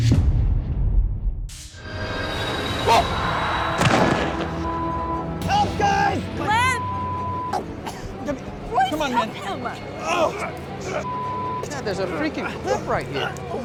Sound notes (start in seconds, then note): 3.8 thud; 10.0 grunting